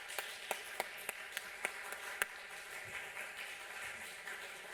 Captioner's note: applause